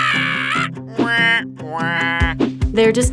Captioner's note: plant whining